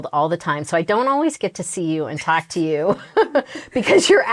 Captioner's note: laughs